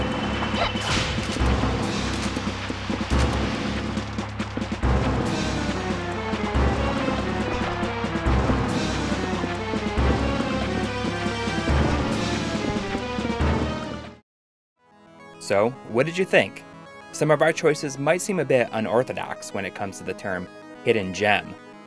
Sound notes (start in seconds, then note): 5.5 game audio